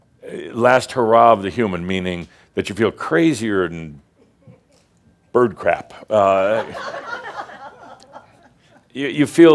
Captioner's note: some chuckles